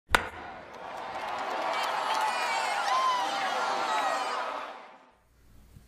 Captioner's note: crowd cheering